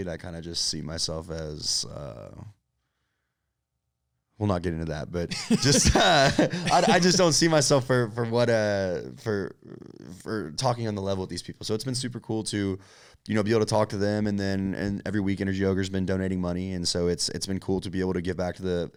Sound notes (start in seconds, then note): 5.3 both laughing